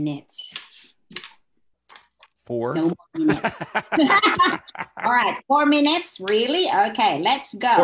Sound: laughs

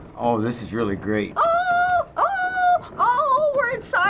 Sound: shrilly

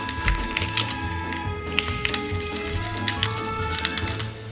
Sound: crunching

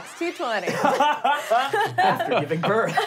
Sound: laughing

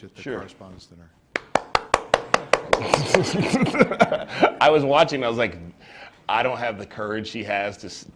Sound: clapping

